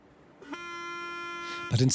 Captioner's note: foghorn sounding